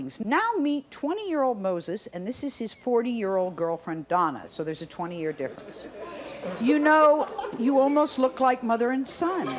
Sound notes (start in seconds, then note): 5.1 audience chattering